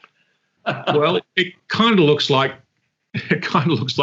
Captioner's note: laughs; chuckles